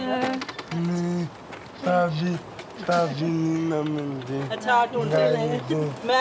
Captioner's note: speaking in a foreign language